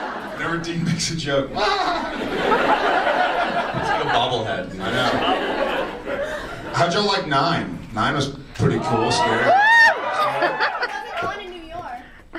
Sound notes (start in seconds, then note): 0.0 audience laughs; 2.0 audience laughs; 8.6 audience cheers